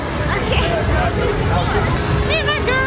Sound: laughs

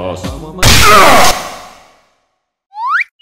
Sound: crash

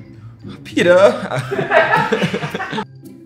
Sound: laughing; comical music

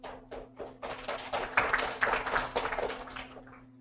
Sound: applauding

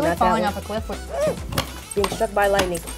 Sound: Dove gasps

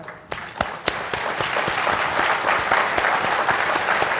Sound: applause

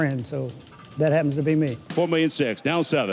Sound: auctioneer calling

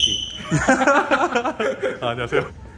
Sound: haha

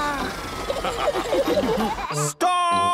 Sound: all laughing

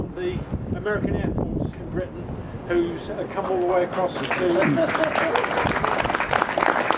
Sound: wind noise

